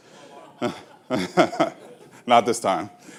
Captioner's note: laughing